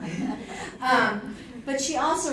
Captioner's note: audience laughing